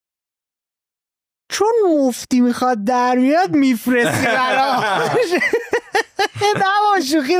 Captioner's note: laughs